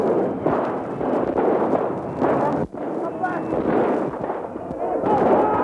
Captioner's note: shooting sounds